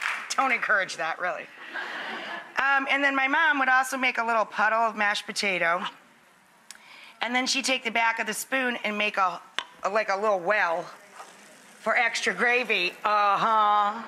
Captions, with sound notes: Don't encourage that really. (laughter) And then my mom would also make a little puddle of mashed potato. And then she'd take the back of the spoon and make a little well for extra gravy. Uh huh.